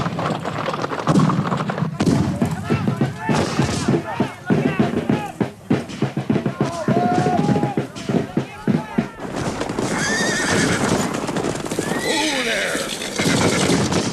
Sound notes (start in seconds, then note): 1.1 rhythmic drumming; 1.6 guns bang; 10.6 horses neigh; 13.2 guns bang